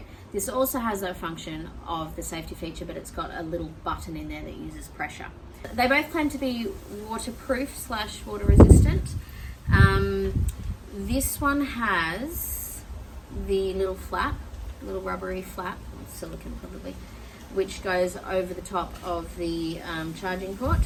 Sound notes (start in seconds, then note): none